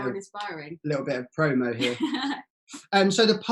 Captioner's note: giggles